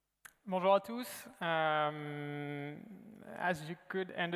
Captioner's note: speaking french